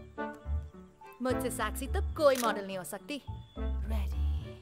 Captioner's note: Camera shutter clicks